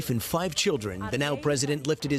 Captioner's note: speaking non-english